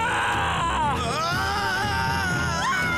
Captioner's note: all screaming